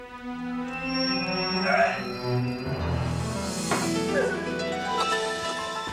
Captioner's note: vomiting